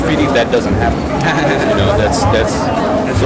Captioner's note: laughs